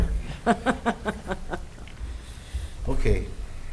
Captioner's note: laughing